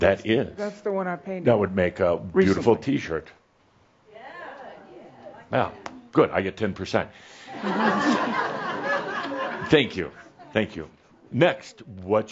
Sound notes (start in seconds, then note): 7.5 laughter